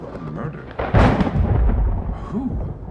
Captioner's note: another thunderclap